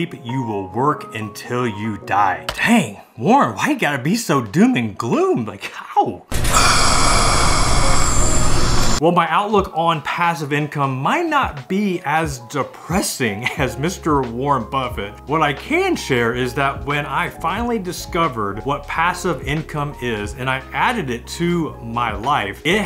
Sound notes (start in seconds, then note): 6.4 groans